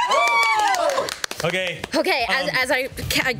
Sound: group cheers

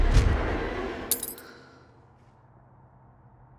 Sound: keys clink

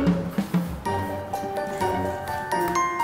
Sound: her voice gradually gets softer

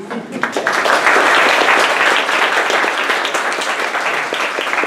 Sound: applause

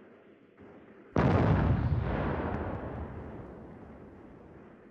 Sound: loud explosion

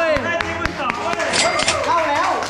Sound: pat; applauding continues

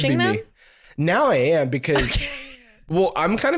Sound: laughs

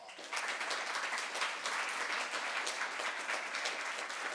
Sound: audience applauding

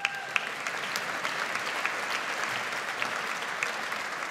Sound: audience applauds

